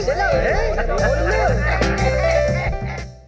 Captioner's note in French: Rires